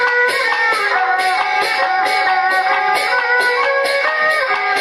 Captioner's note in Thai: ปรบมือ